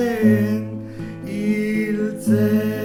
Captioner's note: none